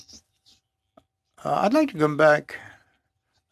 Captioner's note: speaking in French